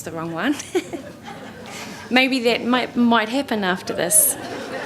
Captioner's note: laughter; laughter